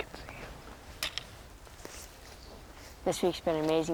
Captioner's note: tapping of footsteps